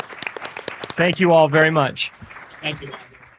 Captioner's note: applause